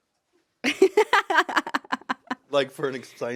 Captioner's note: laughs